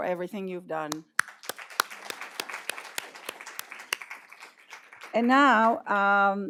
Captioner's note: applause